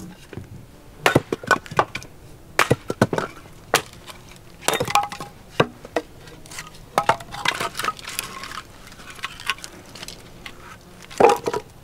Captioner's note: chopping wood